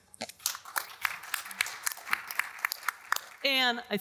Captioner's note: audience applauding